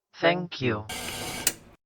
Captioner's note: static, then a click